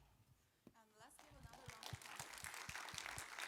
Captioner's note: applause